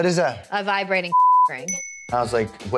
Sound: beep

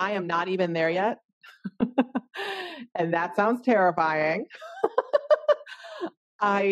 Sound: laughing

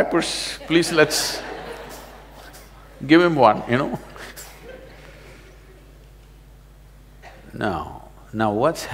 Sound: laughter; laughs

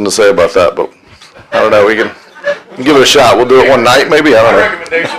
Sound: laughter

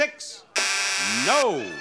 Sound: buzzer blares

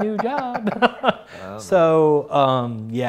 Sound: laughs

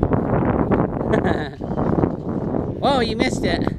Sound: laughing

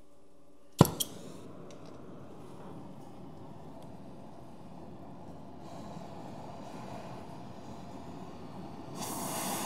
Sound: silence/Noise - likely heating

